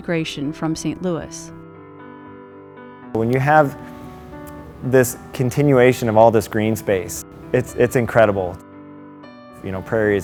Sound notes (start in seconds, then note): none